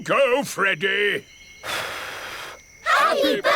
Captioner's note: blows